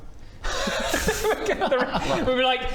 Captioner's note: giggles